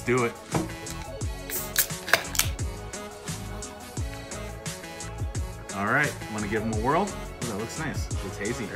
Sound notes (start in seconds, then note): 1.4 cans opening